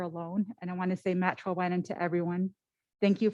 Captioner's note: foreign language